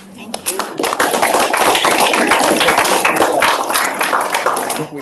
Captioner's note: audience applauding